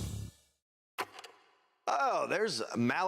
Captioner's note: film reel clicks